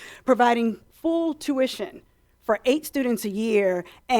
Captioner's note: none